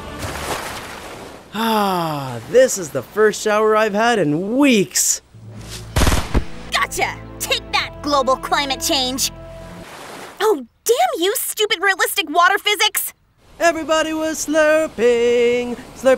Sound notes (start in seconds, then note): 0.0 water splashing; 5.9 gun firing